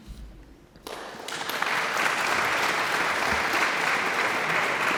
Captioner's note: audience applauds